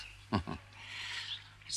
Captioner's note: chuckles